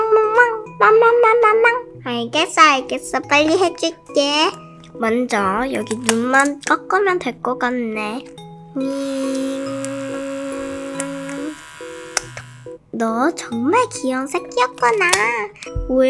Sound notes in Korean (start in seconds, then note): 8.9 위이잉